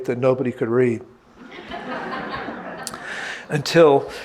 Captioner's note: audience laughing